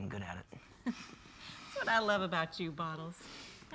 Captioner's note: laughs